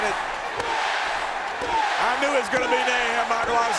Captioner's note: crowd chanting